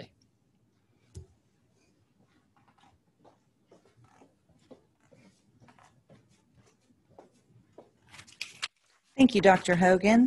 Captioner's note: silence